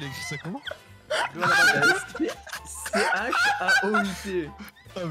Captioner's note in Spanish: ríete